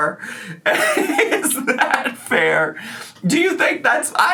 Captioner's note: laughs